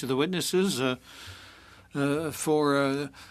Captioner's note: speaking French